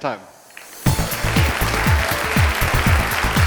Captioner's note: audience applauds; upbeat electronic music